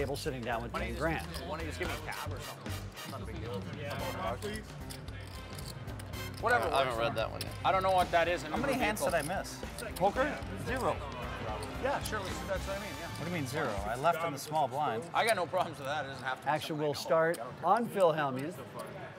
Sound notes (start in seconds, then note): 4.1 players chatter and chips rattle; 11.1 players chatter